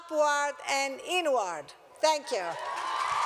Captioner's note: cheers and applause